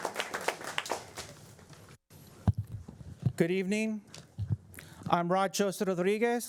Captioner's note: applause